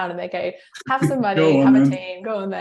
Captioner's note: chuckling